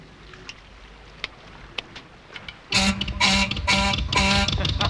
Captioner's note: ship's whistle toots